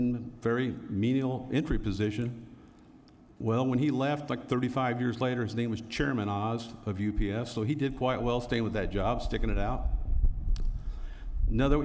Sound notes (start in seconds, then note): none